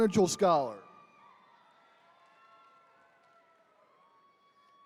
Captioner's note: attendees cheering